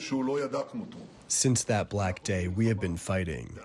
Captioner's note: through translator